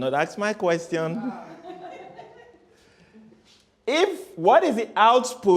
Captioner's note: laughter